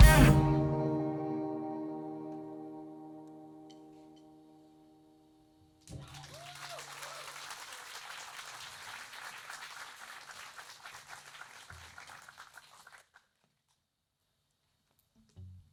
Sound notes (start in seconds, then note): 8.5 applauds and cheers